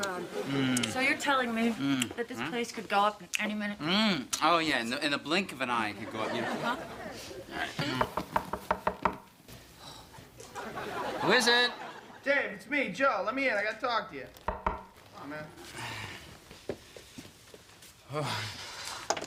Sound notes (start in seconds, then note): 7.9 knock on door